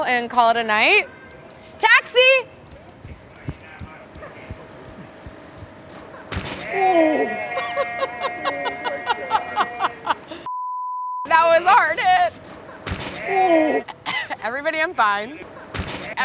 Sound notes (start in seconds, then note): 6.3 thuds; 7.6 laughs